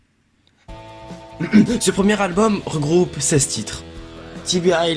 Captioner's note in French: se racle la gorge